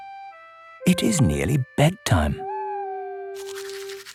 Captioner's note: quacking; owl hooting